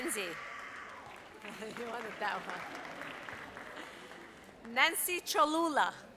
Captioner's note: audience applauds